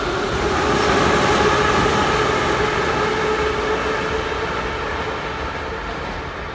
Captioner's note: train leaves to the next station